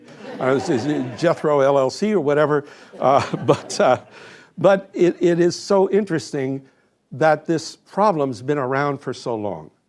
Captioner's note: laughter